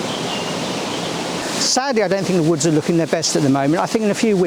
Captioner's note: waterfall sounds